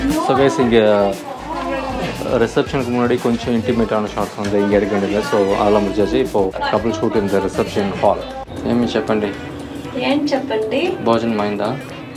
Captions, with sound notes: So guys, here before the reception some intimate shots were to be taken. We have completed all that. So now a couple shoots in the reception hall. Tell me what (in Telugu) What to tell? Had food?